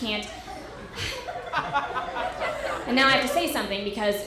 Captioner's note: audience laughter